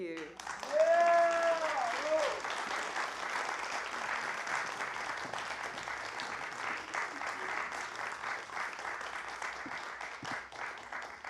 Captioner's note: applause